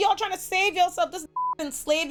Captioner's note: beep